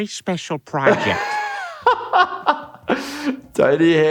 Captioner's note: laughs